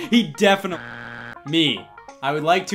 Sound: buzzer beeps

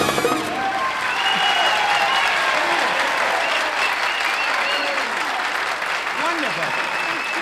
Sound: audience applauding

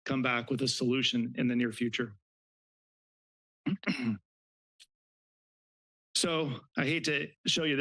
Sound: clears throat

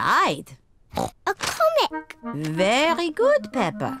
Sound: oinks

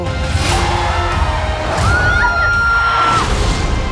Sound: screeches; both scream; music intensifying

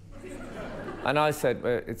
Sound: laughter

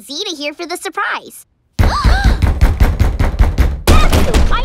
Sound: banging

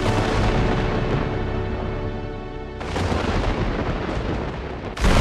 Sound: game audio

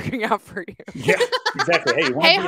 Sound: laughing

